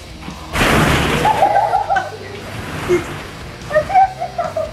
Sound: laughter

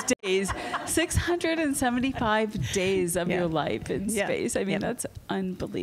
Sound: laughter

